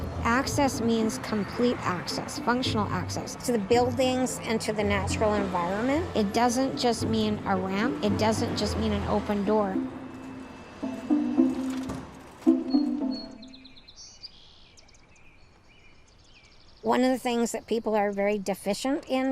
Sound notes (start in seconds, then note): 11.4 door shuts quietly; 13.1 birds chirping